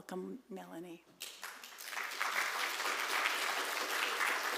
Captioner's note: applause